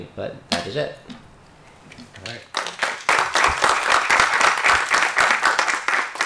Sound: applause

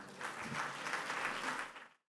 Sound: applause

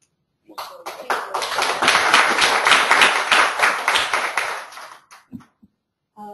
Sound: audience clapping

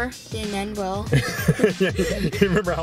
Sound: laughing

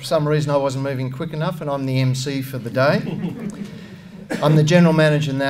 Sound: laughter

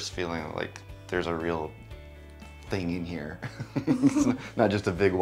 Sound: chuckles

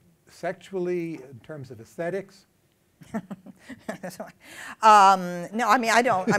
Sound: laughs

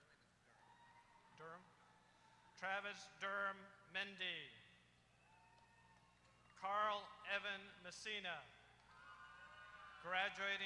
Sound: applause

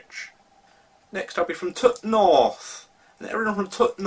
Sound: in Northern accent

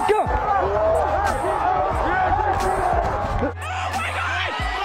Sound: cheering

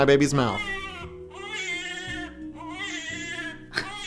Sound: baby crying

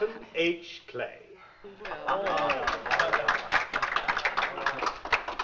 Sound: applause

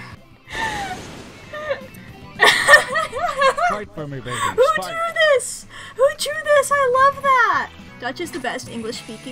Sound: laughs

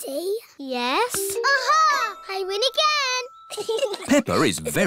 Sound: chuckles

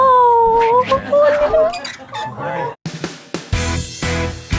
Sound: creaking sign; happy pop music

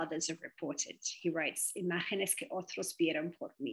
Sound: speaks in foreign language

